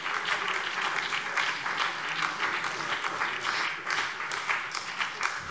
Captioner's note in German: Beifall BÜNDNIS 90/DIE GRÜNEN